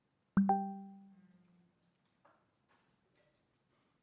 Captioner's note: computer chimes